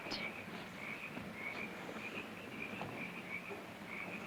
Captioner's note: insects chirping